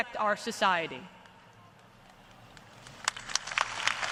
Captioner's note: applause